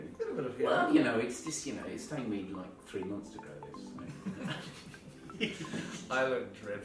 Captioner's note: laughing